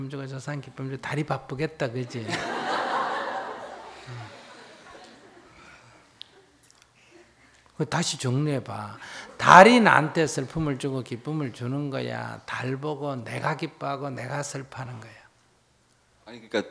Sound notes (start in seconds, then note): 5.9 audience laughter